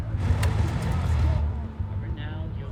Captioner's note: car engine rumbling